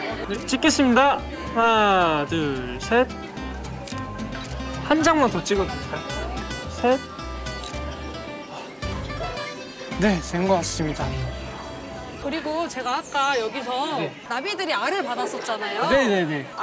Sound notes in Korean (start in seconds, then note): 7.6 찰칵